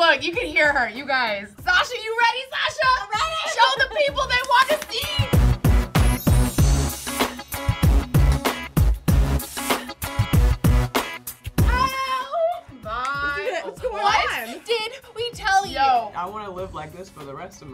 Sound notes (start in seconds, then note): 5.6 funky music; 12.7 fingers snapping